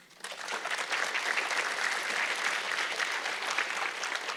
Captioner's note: audience clapping